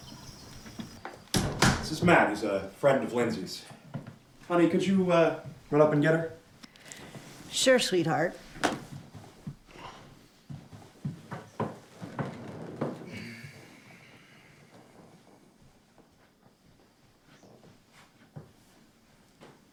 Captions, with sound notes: This is Matt, who's a friend of Lindsay's. Honey, could you run up and get her? - Sure, sweetheart. (chair crinkling) (footsteps pounding)